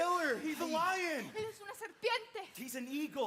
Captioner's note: speaks in Spanish